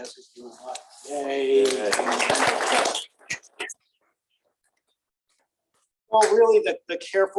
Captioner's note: applause